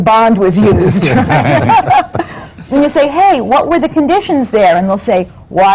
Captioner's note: laughter